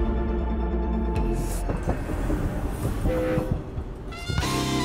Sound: train horn blares

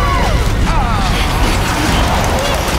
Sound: groaning

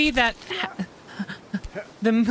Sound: quiet Stammering

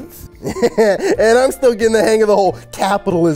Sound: laughs

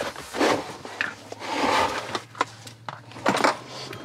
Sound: plastic scraping

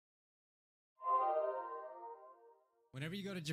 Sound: awkward silence; disappearing sound effect

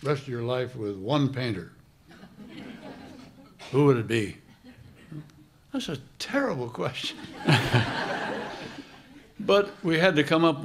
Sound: laughter

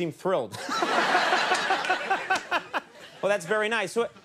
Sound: laughter

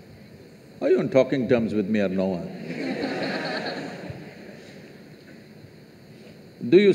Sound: laughter

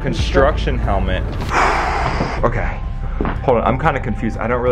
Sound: sighs

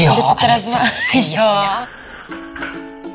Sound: laughs

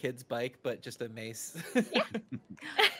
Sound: laughs

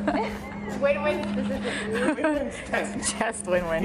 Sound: laughing

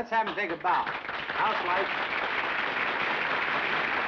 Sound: applause

